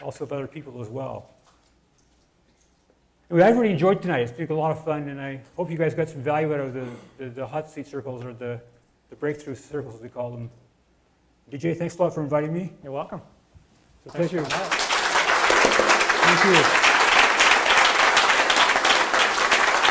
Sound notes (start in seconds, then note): 14.0 audience clapping